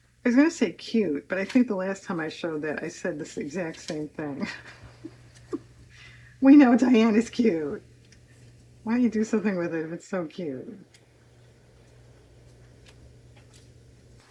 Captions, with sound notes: I was going to say cute, but I think the last time I showed that I said this exact same thing (laughs). We know, Diane, it's cute. Why don't you do something with it if it's so cute?